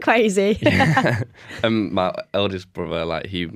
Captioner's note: laughter